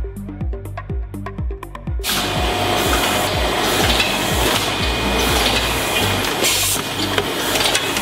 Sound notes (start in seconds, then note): 2.1 machines rumbling